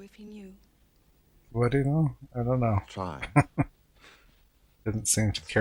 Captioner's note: chuckling